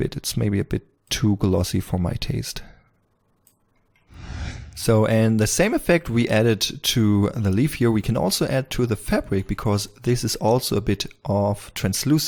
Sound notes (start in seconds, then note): 4.1 whoosh